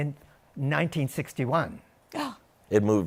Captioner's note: gasps